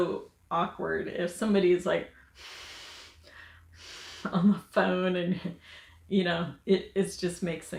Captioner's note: breathes heavily